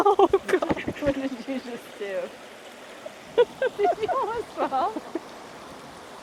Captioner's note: sound of water splashing as someone slips